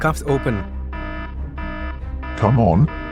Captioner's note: alarm sounds continue